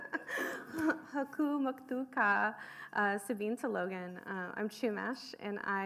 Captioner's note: laughing; speaking foreign language